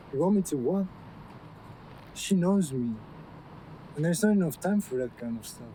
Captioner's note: none